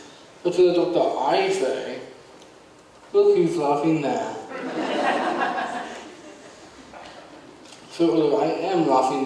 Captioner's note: audience laughs